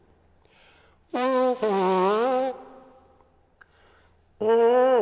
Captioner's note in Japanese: 彼は唇から鼻を鳴らし、唇を振動させます。